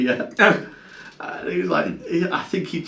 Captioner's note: laughs